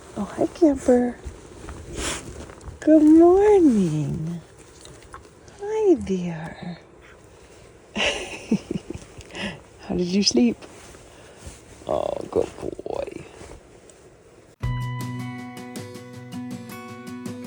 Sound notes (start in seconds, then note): 7.9 laughs; 14.6 upbeat music